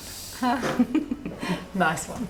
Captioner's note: girls giggling